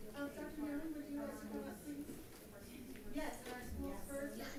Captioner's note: chattering sustains